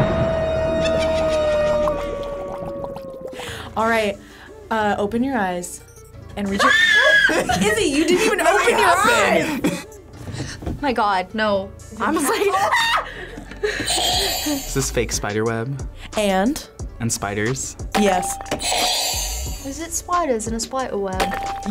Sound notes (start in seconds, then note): 0.0 haunting organ music; 0.0 thunder crashes; 0.8 evil laughter; 1.5 cauldron bubbles; 6.6 screams; 10.5 gasps; 13.1 screams; 13.8 buzzer rings; 18.6 buzzer rings